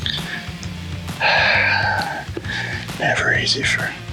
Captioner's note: exhales